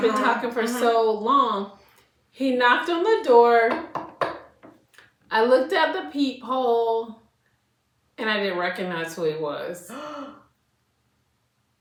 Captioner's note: knock, knock, knock